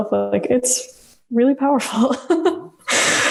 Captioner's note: laughs